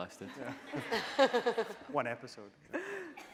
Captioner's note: laughing